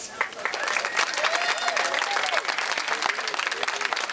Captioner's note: crowd clapping